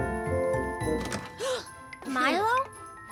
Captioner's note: Milo gasps